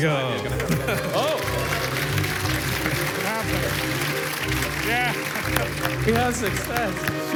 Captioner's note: applause